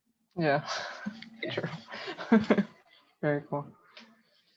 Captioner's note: laughter